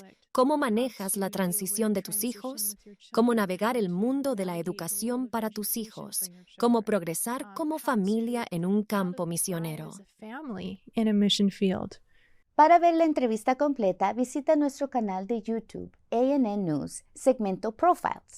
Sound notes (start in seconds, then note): 10.1 Hablando idioma extranjero